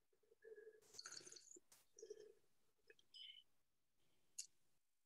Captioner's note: slurpping wine